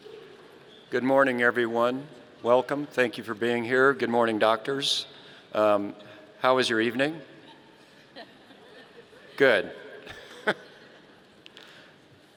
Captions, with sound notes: Good morning, everyone. Welcome. Thank you for being here. Good morning, doctors. How was your evening? (people laughing) Good. (laughing)